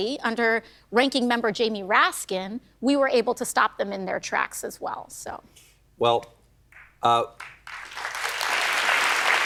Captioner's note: applause